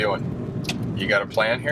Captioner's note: turn signals clicking